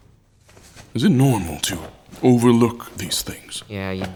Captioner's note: sounds of dressing